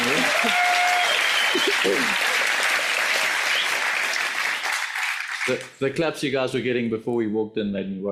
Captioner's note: audience applauds